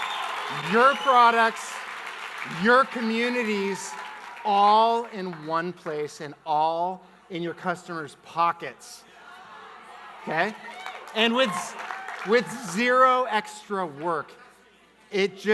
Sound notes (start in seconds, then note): 9.5 audience murmuring; 10.3 audience clapping